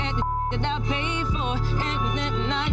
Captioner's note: beep